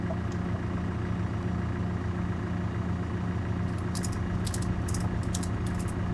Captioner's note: truck engine whirring